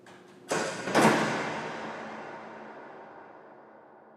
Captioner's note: door shutting